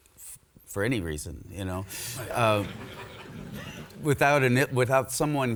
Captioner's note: audience laughs